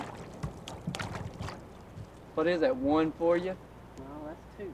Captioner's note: water splashing